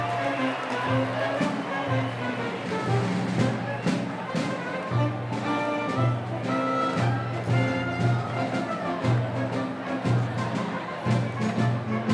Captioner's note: cheers & applause